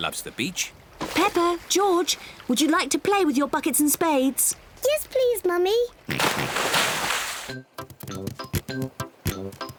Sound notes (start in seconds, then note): 5.8 oinks